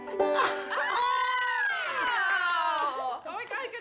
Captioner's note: group cheering and clapping